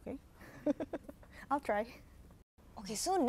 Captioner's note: chuckles